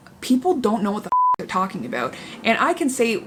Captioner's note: beep